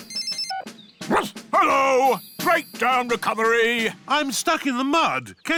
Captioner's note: phone rings; barks